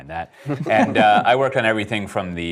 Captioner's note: laughing